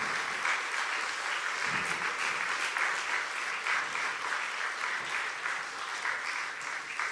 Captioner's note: cheers and applause